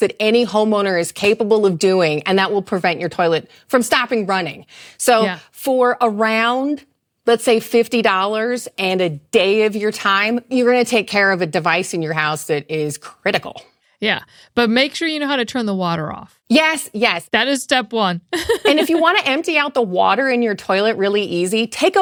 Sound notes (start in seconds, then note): 18.4 laughs